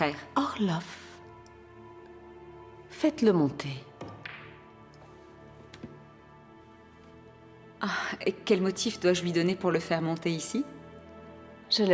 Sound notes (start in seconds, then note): 4.0 balls cracking